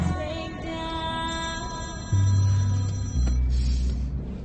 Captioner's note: phone ringing